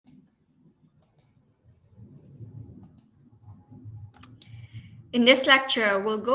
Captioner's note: silence